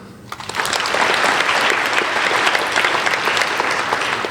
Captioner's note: applauding